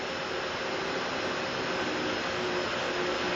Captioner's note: static drowning out music